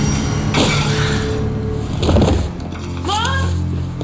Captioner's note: glass shattering; ominous orchestral music